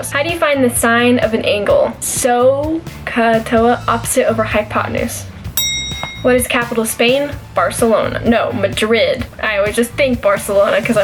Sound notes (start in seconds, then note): 2.9 bell ring